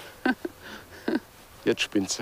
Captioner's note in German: lacht leise